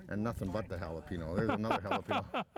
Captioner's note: laughs